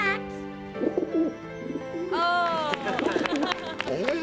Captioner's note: dove cooing; applauding